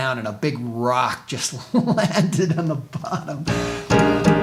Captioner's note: laughing